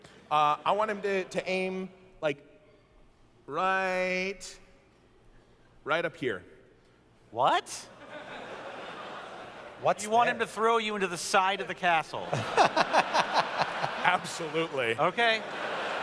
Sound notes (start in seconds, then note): 7.9 laughter; 12.2 laughter